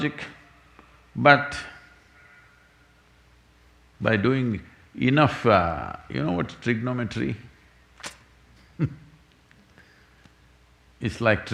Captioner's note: laughs